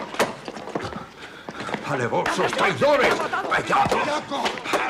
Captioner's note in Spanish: gritan